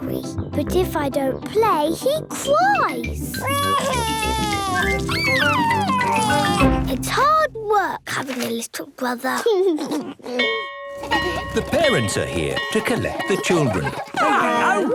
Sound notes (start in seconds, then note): 3.4 crying; 9.5 giggles; 10.5 bell ringing